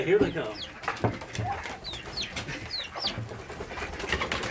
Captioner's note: birds chirping